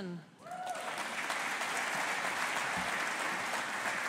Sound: audience applauding

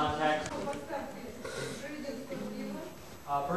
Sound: non-english speech

